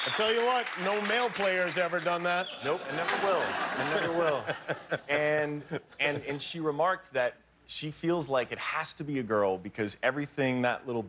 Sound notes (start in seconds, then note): 0.0 cheers and applause